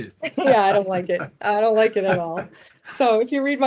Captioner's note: laughing